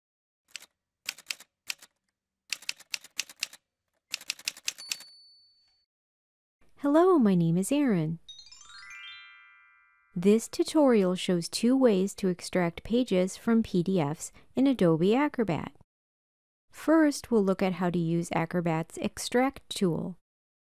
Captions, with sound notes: [Typewriter sounds] Hello, my name is Erin. [Chime sound] This tutorial shows two ways to extract pages from PDFs in Adobe Acrobat. First, we'll look at how to use Acrobat’s Extract tool.